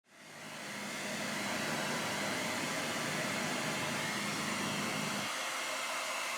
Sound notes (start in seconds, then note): 0.1 hair dryer running